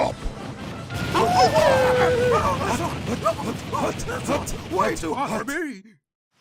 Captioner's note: howls